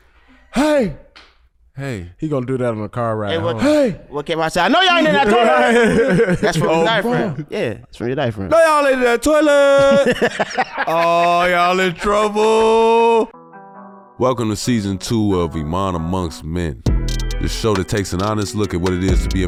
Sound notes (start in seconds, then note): 4.7 brothers laughing; 10.4 cackles